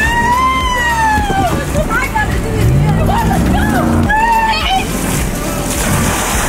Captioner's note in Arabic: صراخ